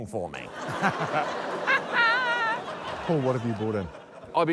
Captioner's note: laughter